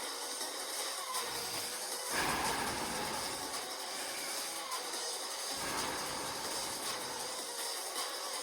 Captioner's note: heavy Breathing